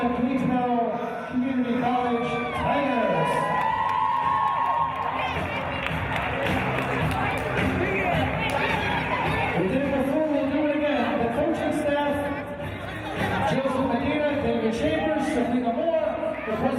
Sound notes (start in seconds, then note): 2.8 team cheers and applauds